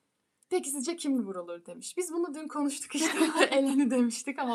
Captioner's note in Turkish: kahkaha